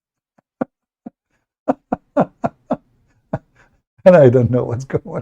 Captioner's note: Ketawa